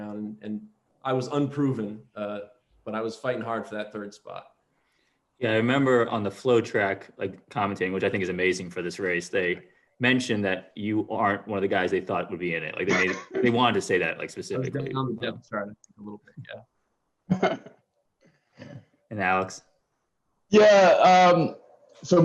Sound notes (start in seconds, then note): 17.3 laughter